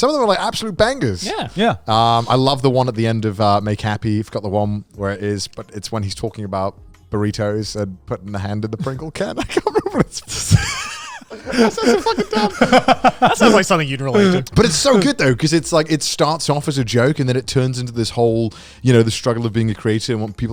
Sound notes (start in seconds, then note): 9.3 chuckling; 13.1 laughing